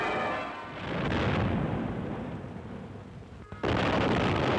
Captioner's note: canons booming